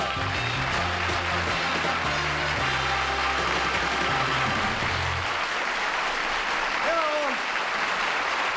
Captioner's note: applause